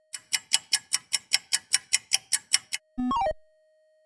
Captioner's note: sound of a ticking clock